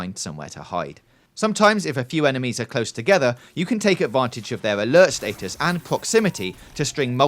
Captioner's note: alert